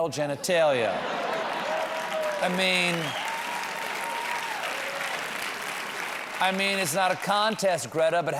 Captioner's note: laughter